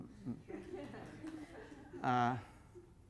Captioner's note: laughter